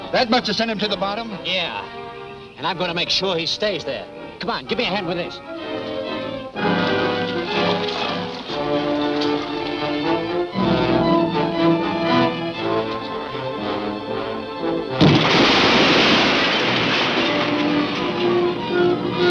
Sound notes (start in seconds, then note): 6.5 orchestral music continues; 14.9 stones breaking